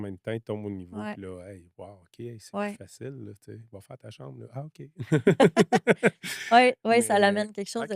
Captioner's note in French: rires